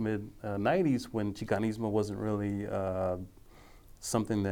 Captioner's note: speaking foreign language